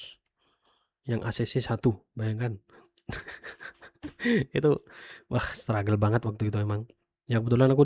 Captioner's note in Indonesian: tertawa